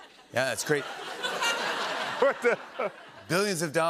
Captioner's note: laughter